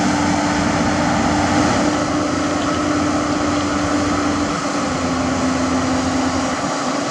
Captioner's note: JCB Engine